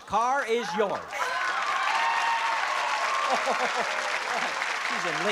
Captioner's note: applause and cheering